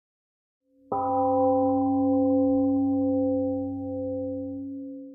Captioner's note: temple gong rings and fades